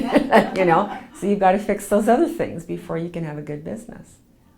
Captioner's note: laughs